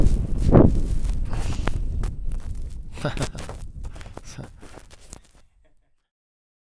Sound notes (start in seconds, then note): 2.9 laughing